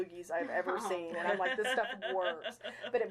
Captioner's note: chuckling